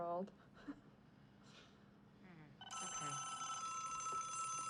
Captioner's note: phone rings